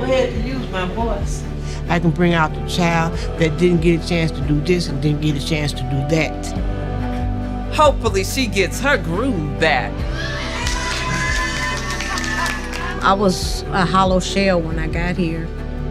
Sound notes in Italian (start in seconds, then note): 10.3 le donne applaudono